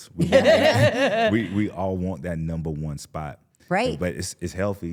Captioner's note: laughs